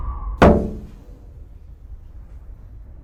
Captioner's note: debris hitting window